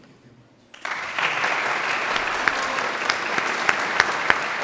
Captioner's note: audience applauds